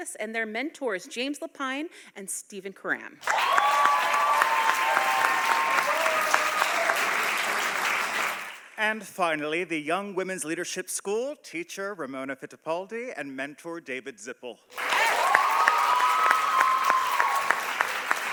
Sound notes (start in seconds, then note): 3.2 audience applauding; 14.7 audience applauding